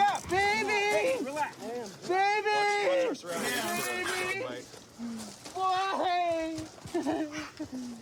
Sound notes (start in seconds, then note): 7.0 sobs